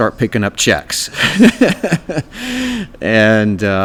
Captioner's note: laughs